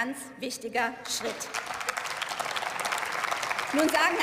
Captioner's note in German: Beifall